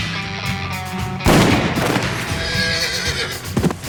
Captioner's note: gunshot